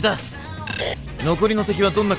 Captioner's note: intercom static